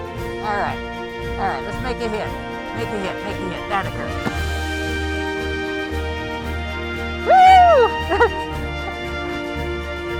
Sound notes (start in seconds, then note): 3.8 wood impact; 4.9 uplifting music swells